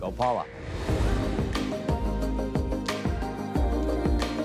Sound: transition whooshing

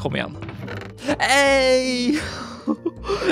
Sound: laughter; gasp

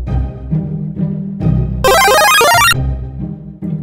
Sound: Mario leveling up sound

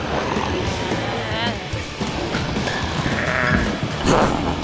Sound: zombie growling

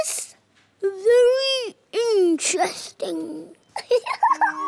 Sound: giggles

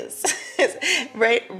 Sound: laughing

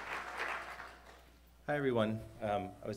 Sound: applause

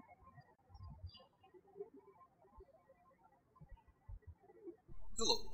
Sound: birds chirping

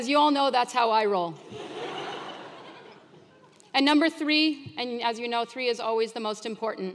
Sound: laugh

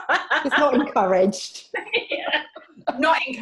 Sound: laughing

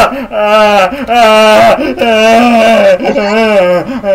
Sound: screams; laughs; screaming continues

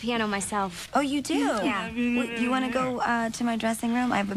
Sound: mumbles mockingly

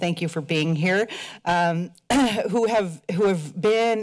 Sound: clears throat

